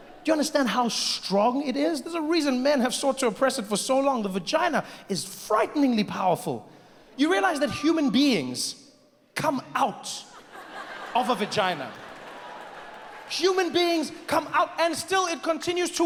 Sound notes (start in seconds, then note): 12.3 audience laughs